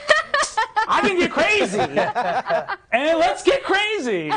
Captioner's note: others laughing